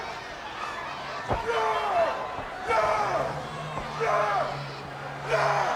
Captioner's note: wrestler yelling